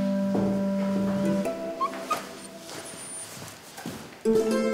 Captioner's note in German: Winseln